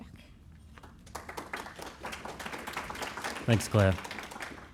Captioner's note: audience Applauds